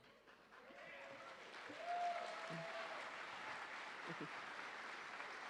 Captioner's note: audience applauding